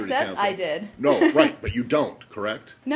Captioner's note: laughter